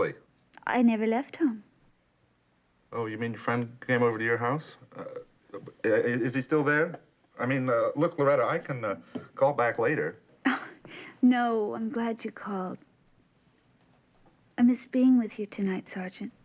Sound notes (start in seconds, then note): 5.5 stuttering